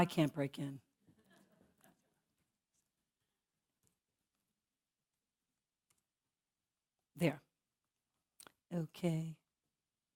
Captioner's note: laugh